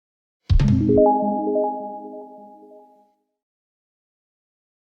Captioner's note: bells chiming